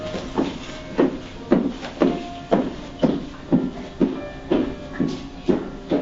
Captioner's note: footsteps walking away